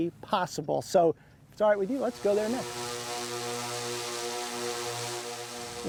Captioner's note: sound of Drone Flying